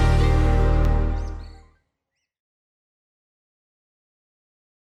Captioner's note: bird chirps